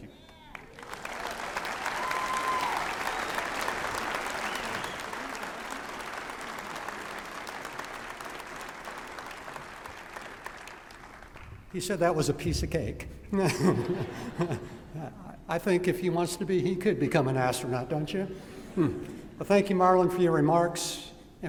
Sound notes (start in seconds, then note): 0.2 applause and cheering; 13.3 laughter